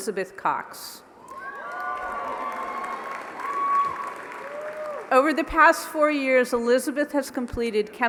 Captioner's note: applause